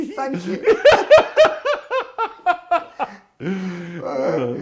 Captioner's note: laughing